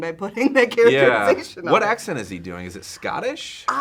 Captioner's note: laughs